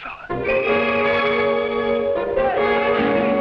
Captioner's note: whistles blowing; officers shouting in foreign language